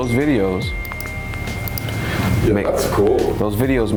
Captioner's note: cellphone pings